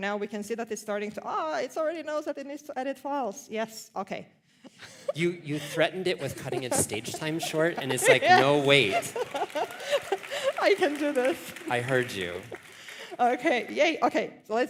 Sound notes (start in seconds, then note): 8.0 applause; 10.7 laughs